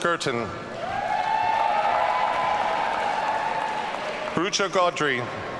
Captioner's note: audience cheering